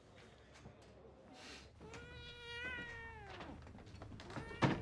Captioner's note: cat meows